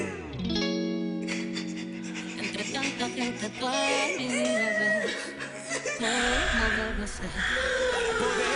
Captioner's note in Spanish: Sollozos; Suspiros